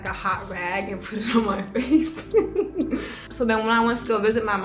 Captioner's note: giggling